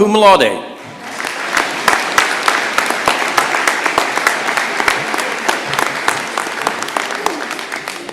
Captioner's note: applause